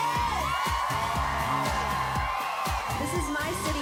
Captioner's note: cheering continues